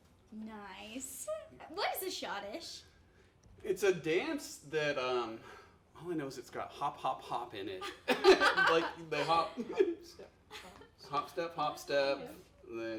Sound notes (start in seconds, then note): 7.8 laughing